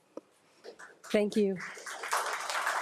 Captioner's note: audience applauding